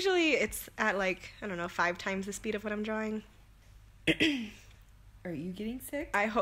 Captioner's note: clears throat